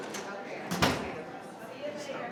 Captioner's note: people chattering; door thudding